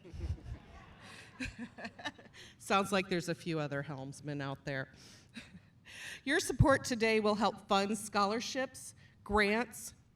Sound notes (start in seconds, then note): 0.0 chuckling; 1.6 chuckles